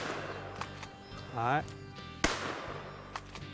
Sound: gunshots

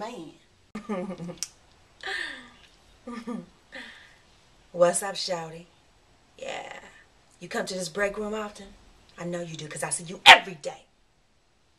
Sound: female flirtatious laughing

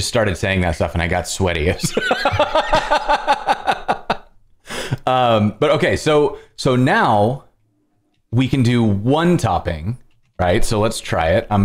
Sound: laughter

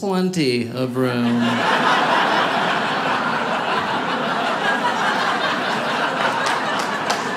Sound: audience laughing; audience applauding

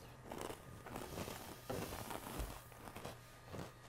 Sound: crunching

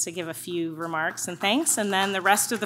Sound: audience claps

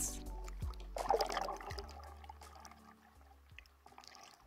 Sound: water bubbling

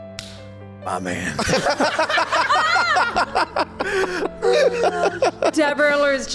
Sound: laughs

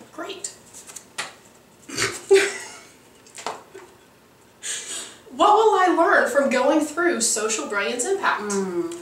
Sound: laughing

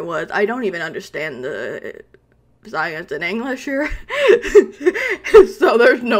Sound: laughs

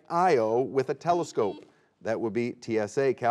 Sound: buzzer beeping

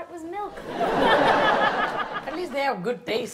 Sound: audience laughs

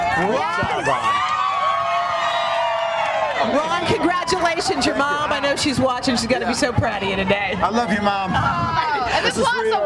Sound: cheers and applause

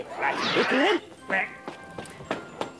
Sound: quack!

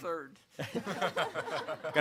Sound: all laugh

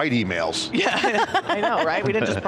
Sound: people laughing

